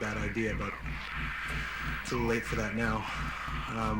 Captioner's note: inhales deeply